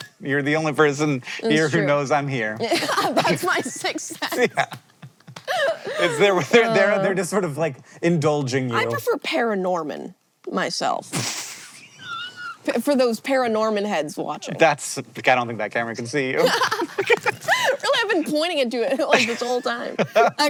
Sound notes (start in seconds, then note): 5.1 laughing; 11.0 HANK bursts out laughing; 16.4 BOTH laugh